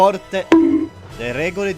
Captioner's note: bonk